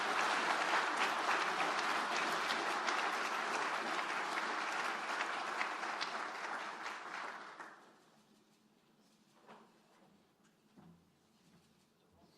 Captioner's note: applause